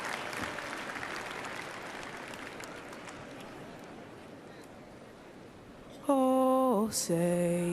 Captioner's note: applause